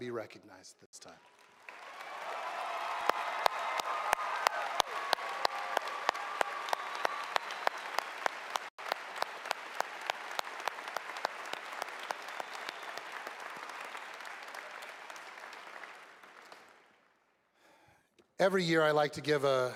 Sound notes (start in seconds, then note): 6.8 cheers and applause